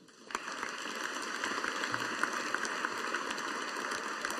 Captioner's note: audience applauding